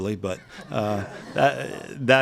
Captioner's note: laughing